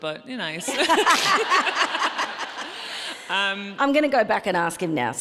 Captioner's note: audience laughs